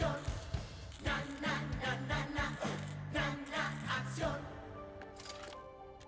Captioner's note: zaps